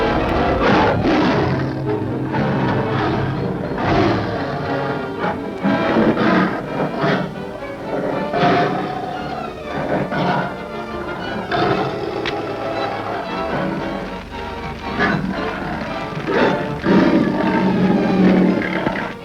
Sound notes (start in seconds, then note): 4.0 roars